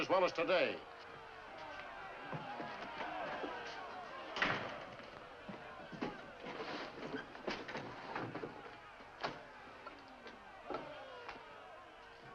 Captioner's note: angry mob yelling outside